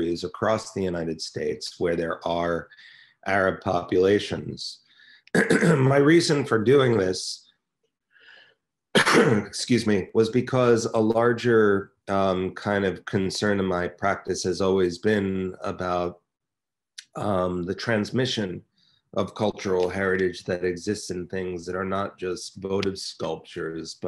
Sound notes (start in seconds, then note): 5.3 clears throat; 8.0 coughs loudly